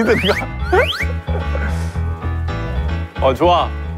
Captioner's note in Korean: 슥슥~